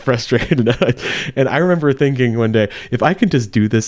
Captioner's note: laughs